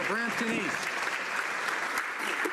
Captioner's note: some Applause